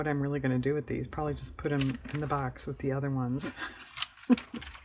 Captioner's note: laughs